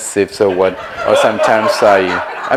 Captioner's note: audience laughs